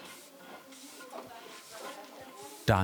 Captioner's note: quiet murmuring